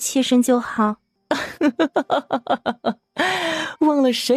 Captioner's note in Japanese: 笑いながら